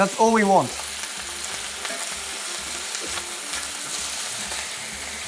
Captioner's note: sizzling sound continues